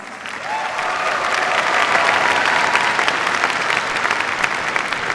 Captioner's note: cheers, applause